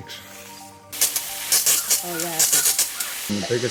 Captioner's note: hose squeaking